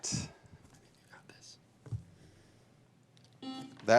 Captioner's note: buzzer rings